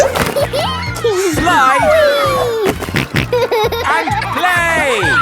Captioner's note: giggles; snorting